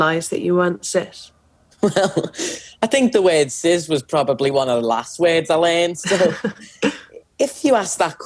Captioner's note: laughs